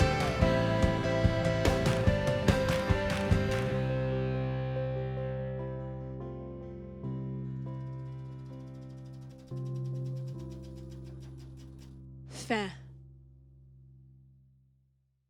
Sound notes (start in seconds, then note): 8.9 film reel flapping